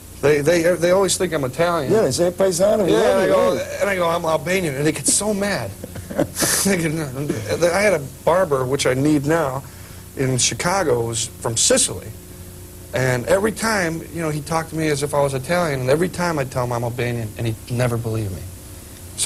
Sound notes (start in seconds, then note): 4.9 laughter